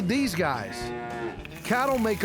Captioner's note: cows mooing